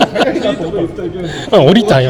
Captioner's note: laugh